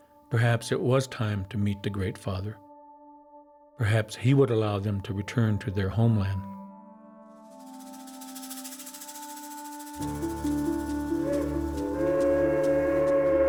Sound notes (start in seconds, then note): 12.0 steam train